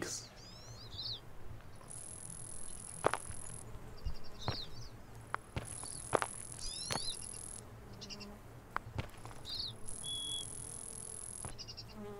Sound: birds chirping. Insects buzzing. Footsteps

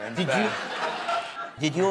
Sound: laughter

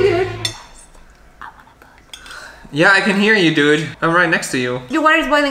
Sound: whispers

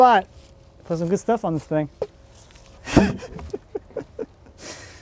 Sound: chuckles

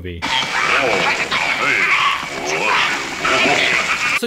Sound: people shouting

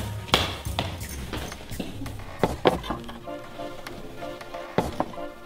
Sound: footsteps creaking

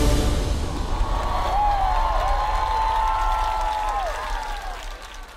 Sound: audience cheers and applauds

